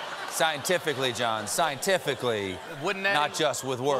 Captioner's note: laughter